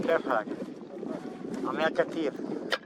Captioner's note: arabic speaking